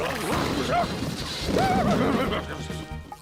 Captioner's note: clattering; whinnies